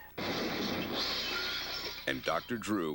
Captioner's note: tires squealing; metal clanging